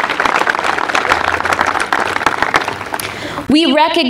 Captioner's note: applause